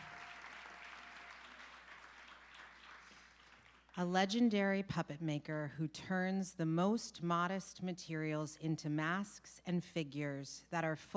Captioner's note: applause